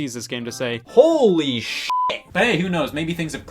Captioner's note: beep